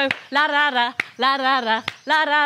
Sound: claps; claps

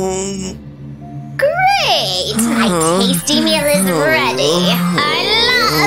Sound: moaning

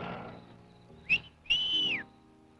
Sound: whistling; light orchestral music

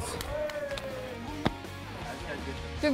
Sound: stomp

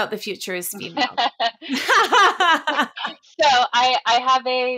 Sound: both laugh

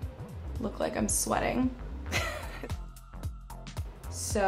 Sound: laughs

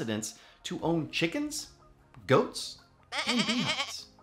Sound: goat bleats

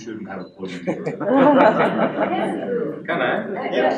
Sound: laughter

